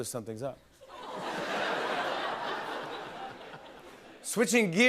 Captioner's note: laughter